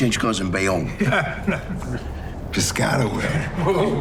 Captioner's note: group laughing